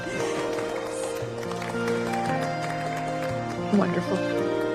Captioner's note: applause